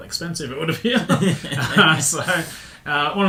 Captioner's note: laughing